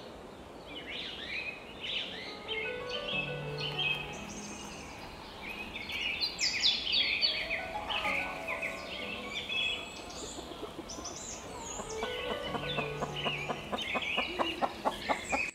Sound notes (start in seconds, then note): 7.7 chickens squabble; 11.3 clucks